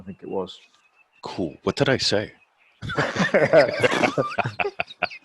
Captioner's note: laughing